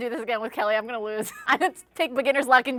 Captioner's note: laughs